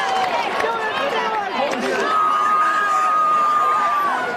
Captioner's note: cheering